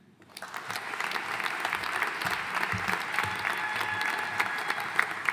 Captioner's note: audience cheering and applauding